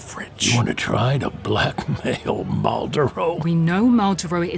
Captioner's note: incredulous